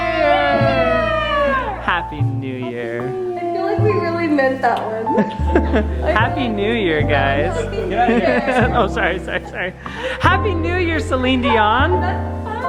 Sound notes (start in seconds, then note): 6.1 laughing